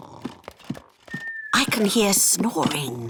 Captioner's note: snoring